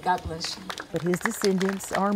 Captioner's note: applause